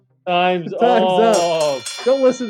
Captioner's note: bell ringing